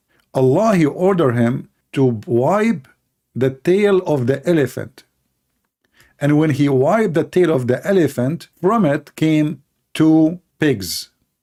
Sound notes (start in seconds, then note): none